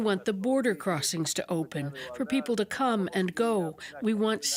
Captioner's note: foreign language